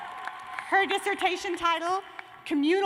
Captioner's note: cheers and applause